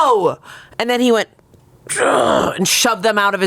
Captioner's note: groans